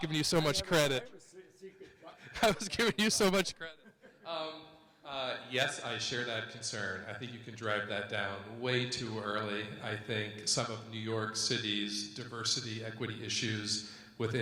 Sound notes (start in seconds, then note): 1.8 laughs